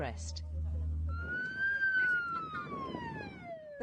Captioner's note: Coastguard siren wails